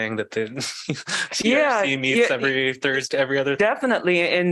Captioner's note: laughter